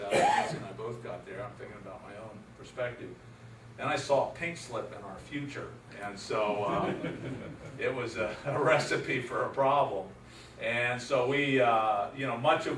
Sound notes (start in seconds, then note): 6.5 laugher